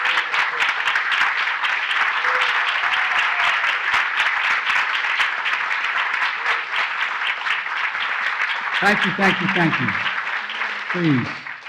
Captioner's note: applause